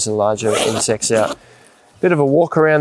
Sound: zipper pulls

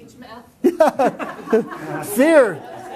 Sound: chuckling

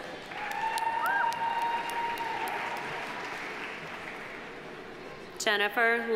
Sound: audience applauding; audience cheering

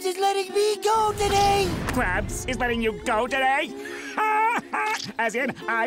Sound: laughing

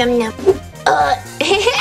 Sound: Jack-Jack burps; Jack-Jack giggles

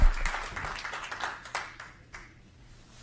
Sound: applause

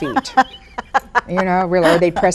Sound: laughs

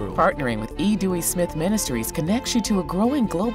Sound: voiceover

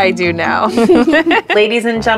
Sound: laughs

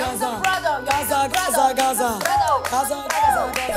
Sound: Full girls chanting "Young Seok Hyung"

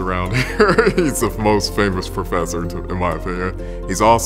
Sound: giggles

